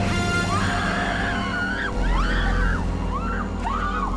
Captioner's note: all screaming; dramatic music